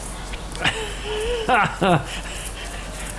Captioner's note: laughing